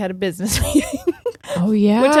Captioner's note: laughing